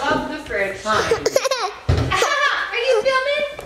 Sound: laughing

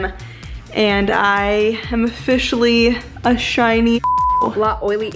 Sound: beep

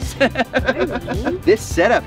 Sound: laughs

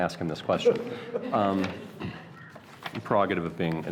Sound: laughs

